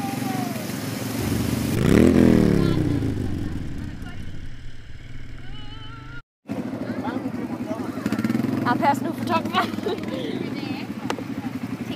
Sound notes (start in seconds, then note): 1.2 quad-bike engine roars